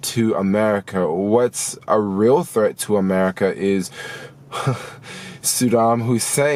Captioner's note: laughs